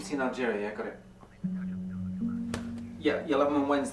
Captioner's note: voice on the phone